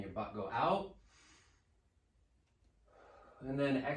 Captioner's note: slow breathing